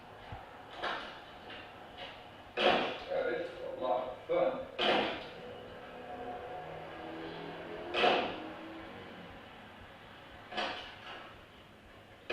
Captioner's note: sound of opening and shutting doors